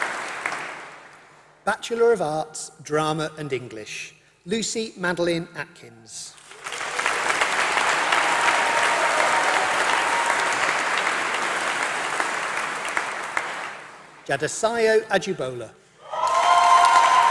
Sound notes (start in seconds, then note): 7.2 applause; 16.0 applause